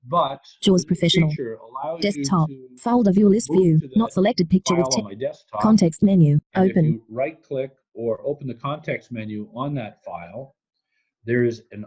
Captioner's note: JAWS heard reading in the background